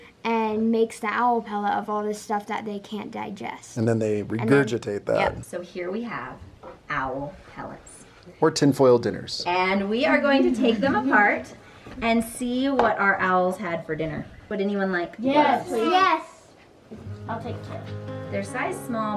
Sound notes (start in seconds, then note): 10.4 children laughing; 16.9 gentle music